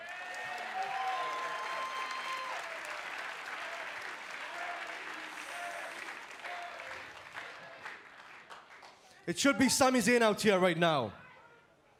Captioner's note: cheers & applause